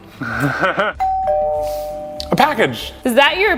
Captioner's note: bell rings